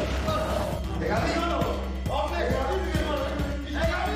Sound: speaking in Italian

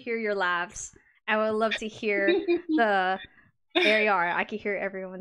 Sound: giggles

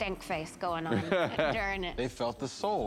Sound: laughs

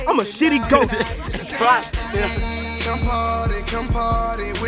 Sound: laughter

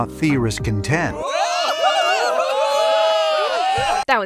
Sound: crowd cheers

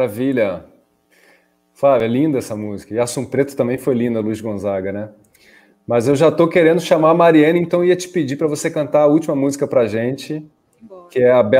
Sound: speaking in Portuguese

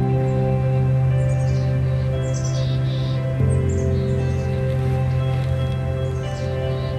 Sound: sound of birds chirping and quiet music

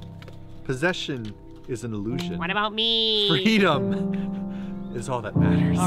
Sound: in Meemers' voice

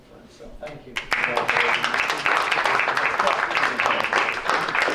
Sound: clapping

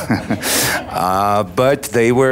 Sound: audience laughs; laughs

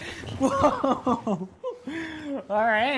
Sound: Shane laughing

